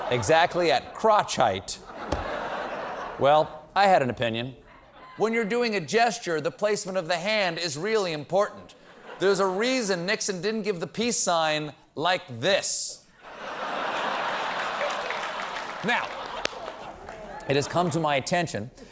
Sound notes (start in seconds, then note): 11.9 applause; 13.2 laughter